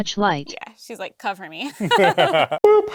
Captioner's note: laughter